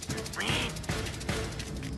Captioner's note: duck Quacking